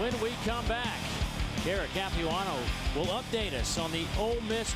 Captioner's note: crowd noise